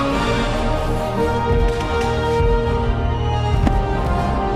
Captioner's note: fireworks Detonating